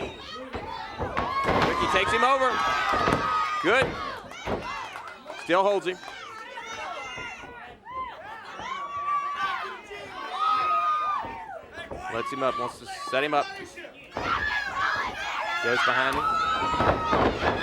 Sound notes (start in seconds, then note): 8.8 crowd chatter